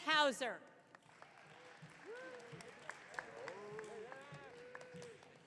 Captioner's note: audience cheering